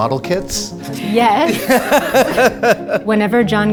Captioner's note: Adam laughs